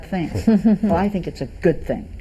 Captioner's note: everyone snickers